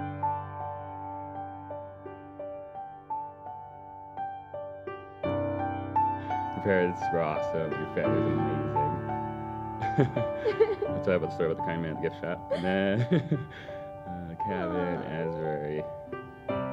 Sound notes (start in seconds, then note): 12.4 laugh